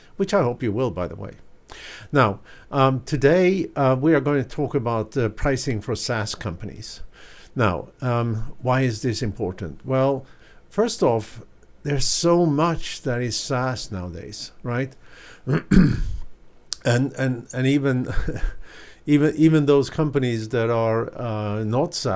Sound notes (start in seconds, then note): 15.4 clearing throat